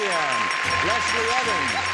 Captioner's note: bell dinging